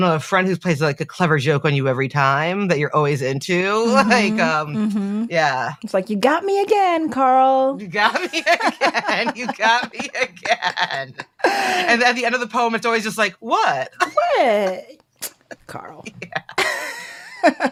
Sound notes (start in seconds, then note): 7.9 they laugh